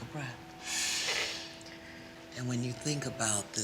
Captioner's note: inhales deeply